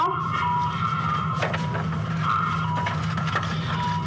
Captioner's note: flipping pages